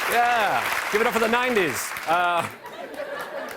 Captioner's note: laughter